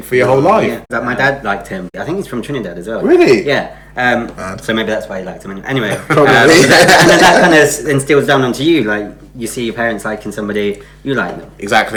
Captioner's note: laughs